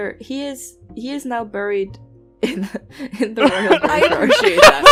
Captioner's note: laughter